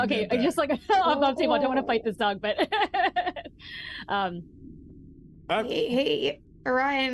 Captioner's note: laughs